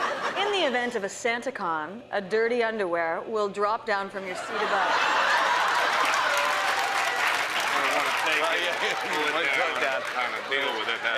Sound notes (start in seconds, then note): 0.0 laughter; 4.4 laughter and applause